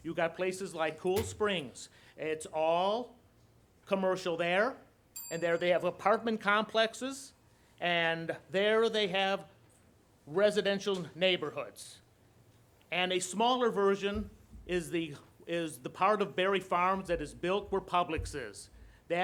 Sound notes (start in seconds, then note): 5.2 bell dings